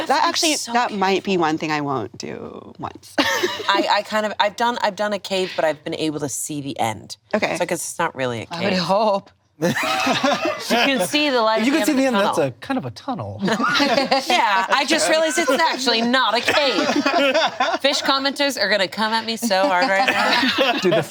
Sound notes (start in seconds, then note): 9.6 all laughing; 13.4 laughs